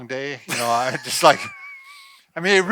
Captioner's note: both laugh